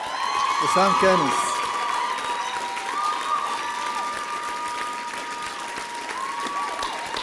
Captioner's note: applause and cheering